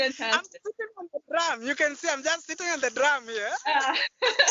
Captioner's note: laughter; laughter